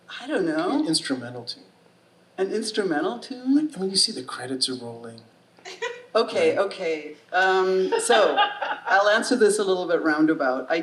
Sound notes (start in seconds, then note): 7.9 audience laughing